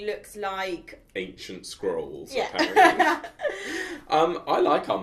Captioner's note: laughs